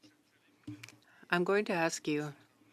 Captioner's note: speaking French